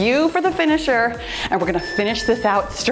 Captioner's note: timer beeps